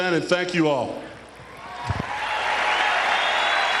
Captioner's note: applause